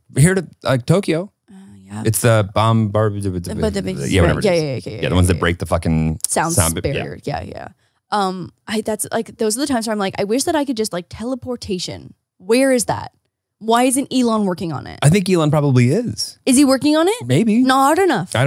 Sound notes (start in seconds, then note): 3.6 speaking gibberish